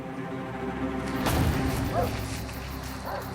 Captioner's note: dramatic music; dogs barking